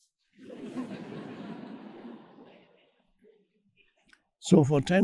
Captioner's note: audience laughing